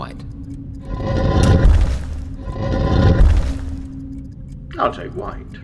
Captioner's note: something heavy dragging and thumping